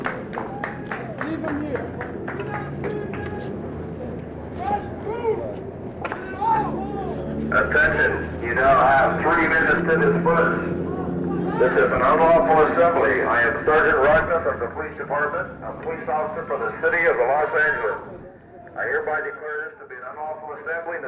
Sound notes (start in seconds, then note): 7.4 Police, over bullhorn